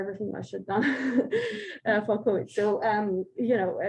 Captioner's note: chuckles